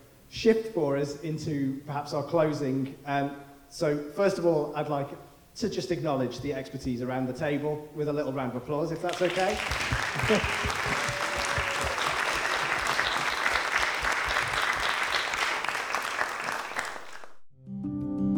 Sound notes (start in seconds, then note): 9.0 audience applauding